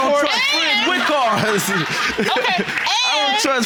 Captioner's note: laughs